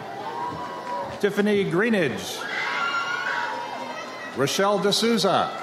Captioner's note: audience cheers